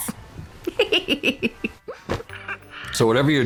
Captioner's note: giggling